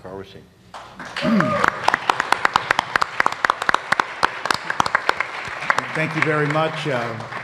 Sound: applause

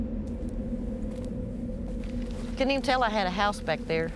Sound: crunching

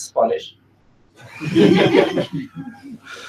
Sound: laughing

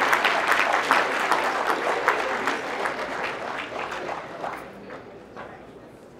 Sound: applause

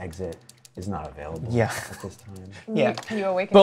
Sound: laughs

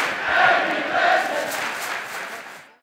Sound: clapping

